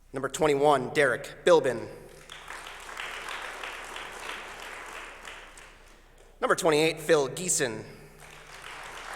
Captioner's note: applause